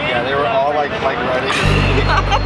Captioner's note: laughter